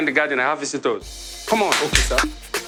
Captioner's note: claps